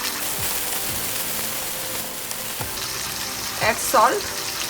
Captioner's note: sizzling sound of frying